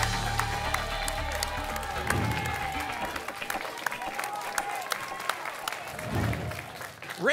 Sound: applause and cheering

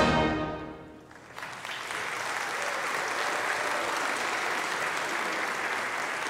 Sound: congregation applauding

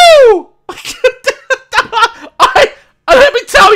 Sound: laugh

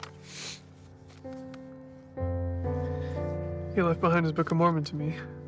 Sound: Thomas sniffles

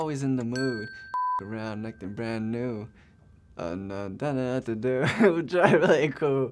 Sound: bell rings; beep

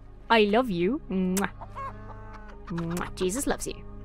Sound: kisses; chickens clucking; kisses

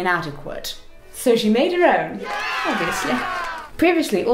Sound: cheers

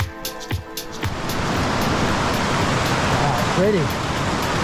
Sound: water rushing

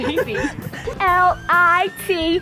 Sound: laughing

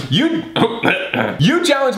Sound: clears throat

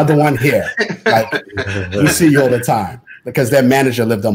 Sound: laughter

